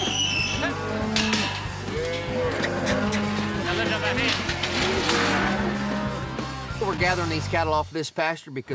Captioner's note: cows moo